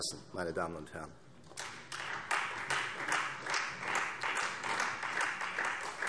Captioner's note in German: Beifall Freie Demokraten